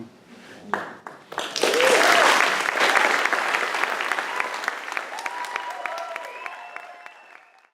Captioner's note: cheers